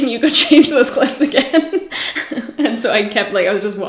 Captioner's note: laughs